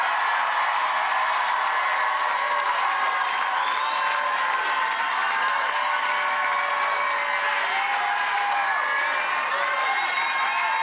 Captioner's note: cheers and applause